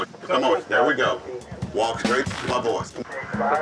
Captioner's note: man over radio